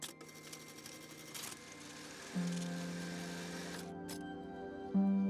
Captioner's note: machine whirring; slow, somber music